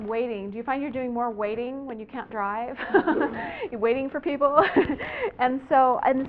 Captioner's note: laughter